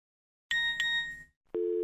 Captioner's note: phone beeps